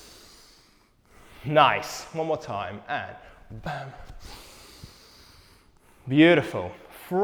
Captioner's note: inhales